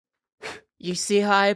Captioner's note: blows